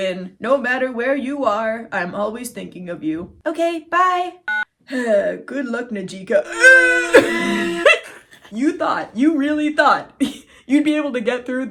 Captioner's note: phone beeps; laughing